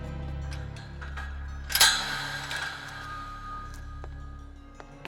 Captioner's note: door creaking